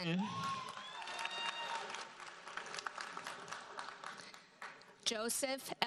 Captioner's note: audience cheers and applauds